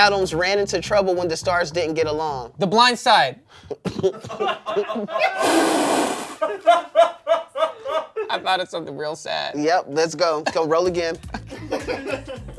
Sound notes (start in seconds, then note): 3.9 everyone laughs